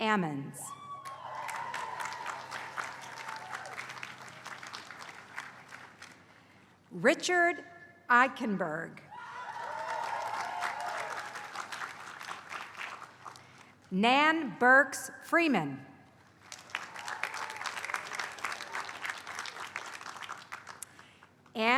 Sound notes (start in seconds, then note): 1.0 applause; 9.3 applause; 16.4 applause